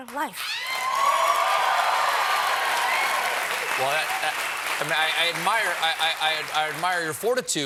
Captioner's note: cheers and applause